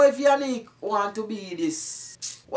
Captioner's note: sucks teeth